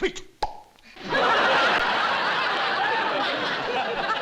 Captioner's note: pop